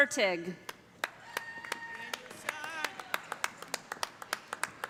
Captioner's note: cheers and applause